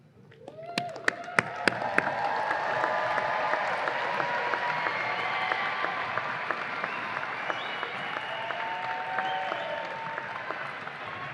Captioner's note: audience applause and cheers